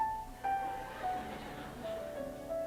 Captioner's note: soft music; laughter